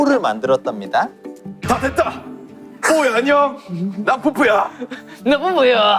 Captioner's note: manly voice